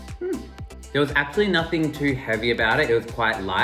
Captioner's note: voiceover